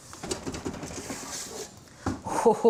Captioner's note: lid thudding